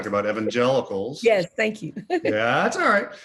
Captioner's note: laughs